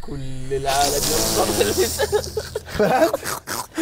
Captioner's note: Tongue chupsing like the Undertaker; snort-laughing